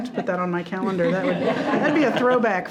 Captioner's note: all laughing